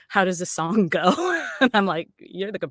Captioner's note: laughs